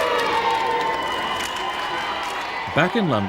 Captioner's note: crowd cheering